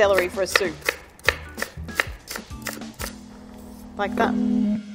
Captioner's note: knife tapping against wooden board